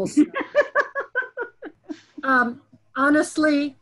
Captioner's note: laughs